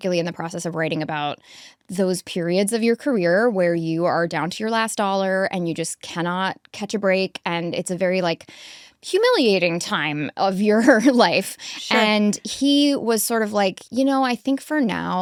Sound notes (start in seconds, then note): 9.8 chuckles